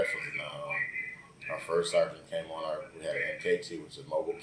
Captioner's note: radio in the background